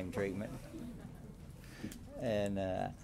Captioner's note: laughter